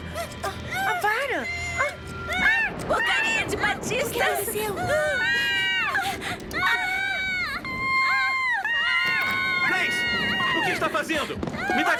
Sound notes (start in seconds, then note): 0.1 screaming; 5.0 screaming